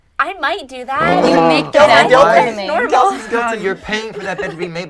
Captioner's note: shouting at once